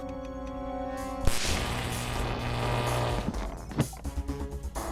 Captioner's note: gun zaps; tense instrumental music